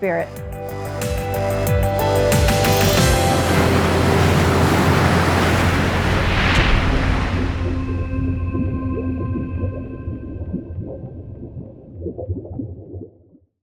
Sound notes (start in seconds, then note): 0.0 upbeat music; 2.8 water flowing